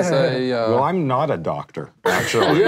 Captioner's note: laughing